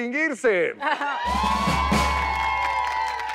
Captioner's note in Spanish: Ovación